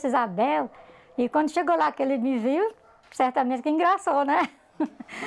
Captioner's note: laughs